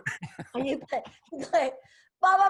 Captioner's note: laughs